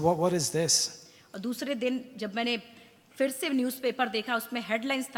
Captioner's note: speaks foreign language